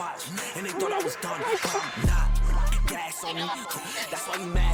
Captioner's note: rap music continues; men yelling